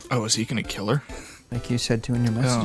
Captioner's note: wheeze